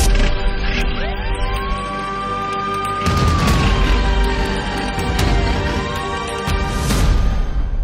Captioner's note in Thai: เสียงสัญญาณฉุกเฉิน